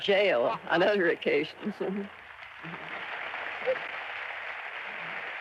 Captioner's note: audience clapping